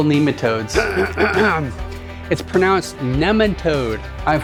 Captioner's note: clearing throat